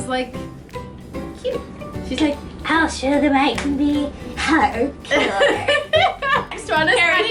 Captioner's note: laughter